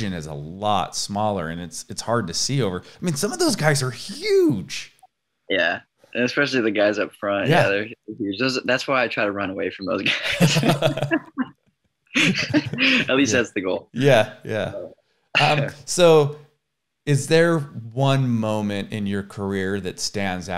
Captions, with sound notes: is a lot smaller and it's hard to see over. I mean, some of those guys are huge! - Yeah, especially the guys up front. - Yeah. - That's why I try to run away from the other guys. (laughs) At least that's the goal. - So, is there one moment in your career that stands out,